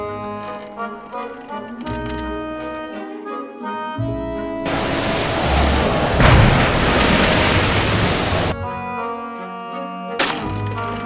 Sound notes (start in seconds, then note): 4.6 rainstorm and waves crashing; 10.2 splat sound